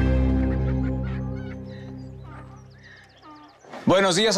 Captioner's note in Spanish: Voces de animales